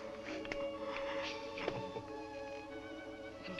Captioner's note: gasp